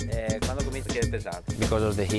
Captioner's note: speaking Italian